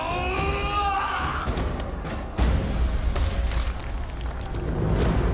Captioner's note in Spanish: Grito; Estruendo